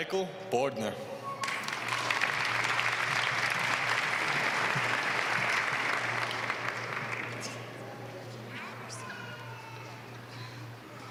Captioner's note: applause